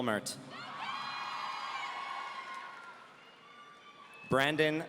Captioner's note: audience cheering